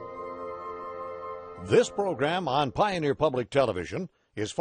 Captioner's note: voiceover